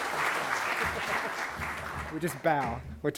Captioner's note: laughter